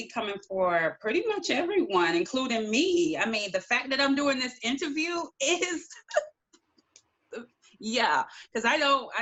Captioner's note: laughter